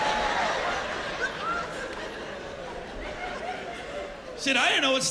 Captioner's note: laughter